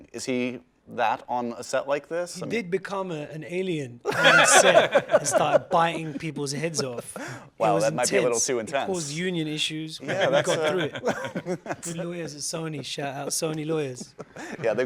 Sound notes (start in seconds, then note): 4.0 laughter